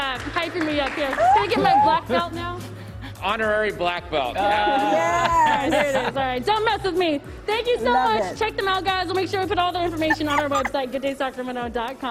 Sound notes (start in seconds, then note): 4.4 laughter